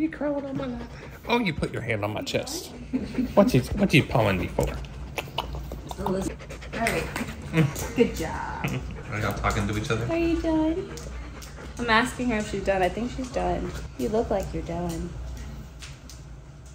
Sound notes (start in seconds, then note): 5.0 smacking tongue; 7.6 snapping